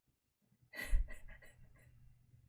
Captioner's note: chuckles